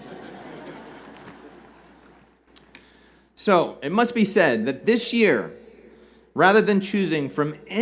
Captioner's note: laughter